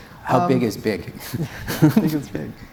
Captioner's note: audience Laughing